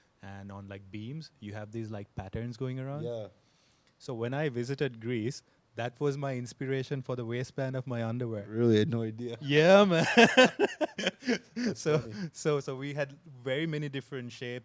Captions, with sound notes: and on beams, you have these patterns going around? So when I visited Greece, that was my inspiration for the waistband of my underwear. Really, no idea. Yeah, man. (laughing) So we had very many different shapes,